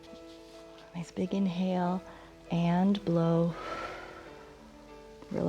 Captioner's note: exhales